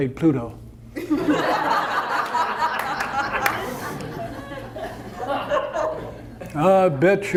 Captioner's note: audience laughter